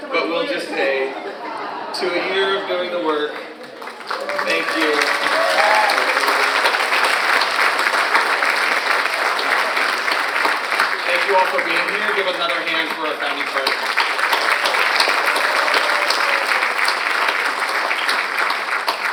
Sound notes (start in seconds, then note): 5.6 all applauding; 5.6 audience cheers; 15.1 audience and applauding